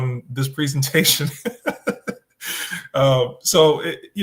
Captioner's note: laughs